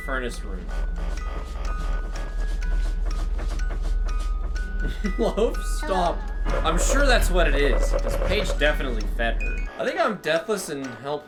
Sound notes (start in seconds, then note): 4.8 laughs